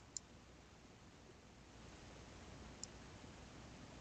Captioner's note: mouse clicking